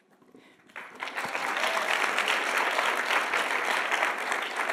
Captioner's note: audience applauding